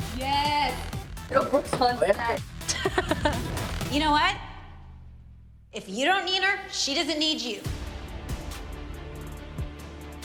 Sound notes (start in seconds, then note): 2.6 laughs; 7.4 dramatic music